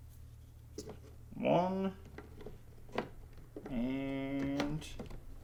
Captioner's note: RAM clicking